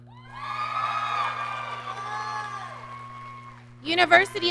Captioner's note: audience cheering